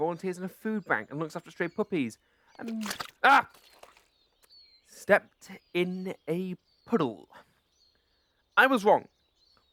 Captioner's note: splash